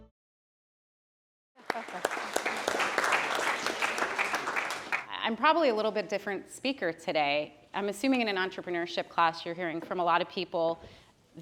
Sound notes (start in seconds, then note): 1.6 applause